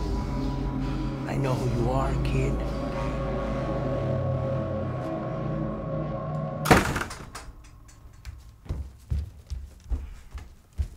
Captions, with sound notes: I KNOW WHO YOU ARE, KID. [ DOOR SLAMS ] [ FOOTSTEPS APPROACH ]